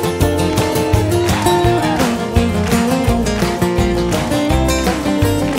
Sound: audience clapping in rhythm

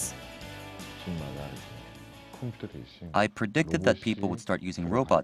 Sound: Korean

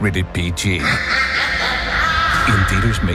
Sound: evil laugh

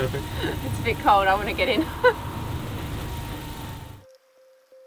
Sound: laughing; gentle music

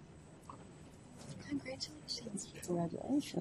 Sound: voiceover

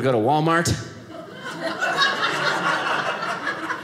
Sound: audience laughing

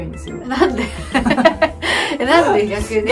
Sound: laughter

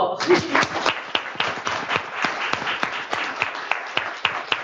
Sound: applause

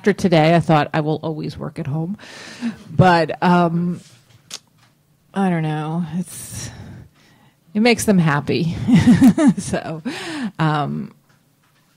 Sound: laughs

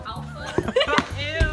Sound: laughter

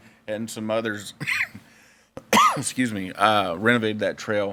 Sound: coughs

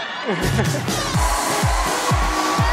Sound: laughs

